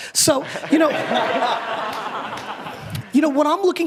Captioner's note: audience laughter